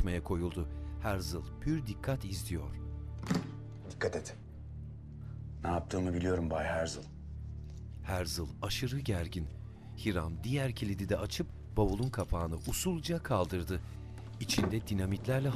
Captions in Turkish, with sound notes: (Kilit açma sesi) Dikkat et! Ne yaptığımı biliyorum Bay Herzl. (Müzik - Gerilim) (Kapak açma sesi)